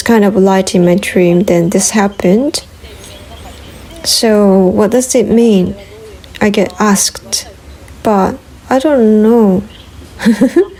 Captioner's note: laughs